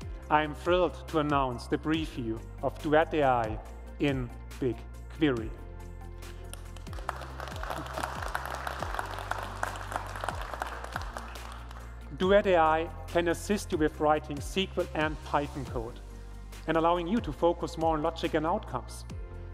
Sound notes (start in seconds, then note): 4.8 applause